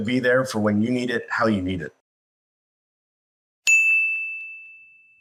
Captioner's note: ding